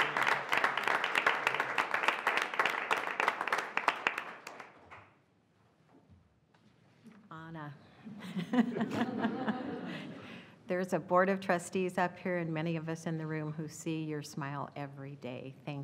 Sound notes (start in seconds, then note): 8.2 laughing